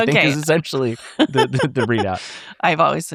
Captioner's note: laughs